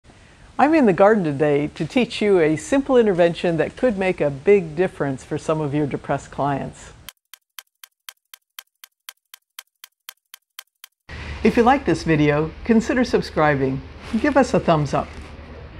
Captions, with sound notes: I'm in the garden today to teach you a simple intervention that could make a big difference for some of your depressed clients. [clock ticking] If you like this video, consider subscribing. Give us a thumbs up.